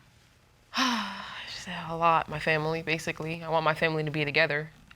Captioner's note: sighs